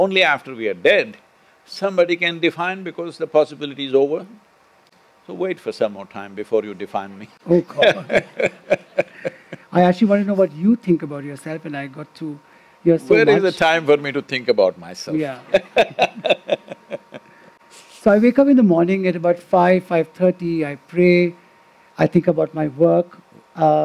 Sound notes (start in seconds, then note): 7.6 Sadhguru laughs; 15.3 Sadhguru laughs